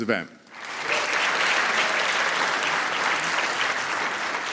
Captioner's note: applause